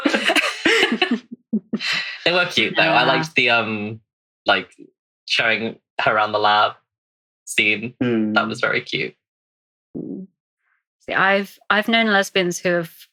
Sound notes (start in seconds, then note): 7.0 laughing